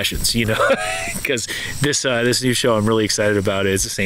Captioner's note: laughing